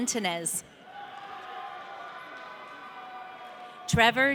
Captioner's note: audience cheering